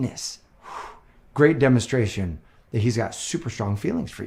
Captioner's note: blows